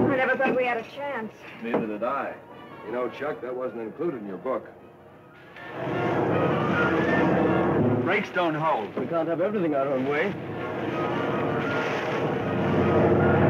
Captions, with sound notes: - Neither did I. You know Chuck that wasn't included in your book. - Brakes don't hold. - We can't have everything our own way. (engines rumbling)